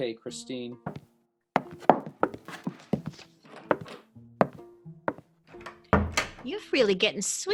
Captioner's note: footsteps and door opens, closes